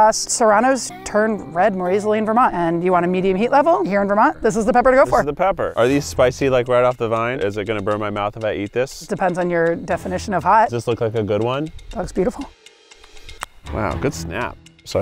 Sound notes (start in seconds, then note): 12.7 snapping